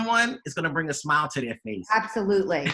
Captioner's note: laughing